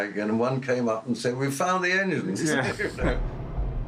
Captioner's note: laughs